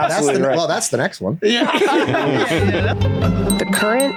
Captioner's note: all laugh